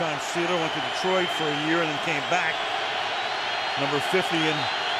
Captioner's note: crowd cheering